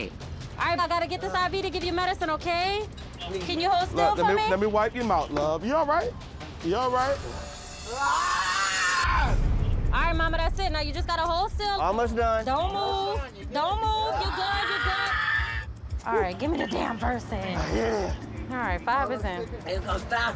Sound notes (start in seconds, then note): 7.0 yells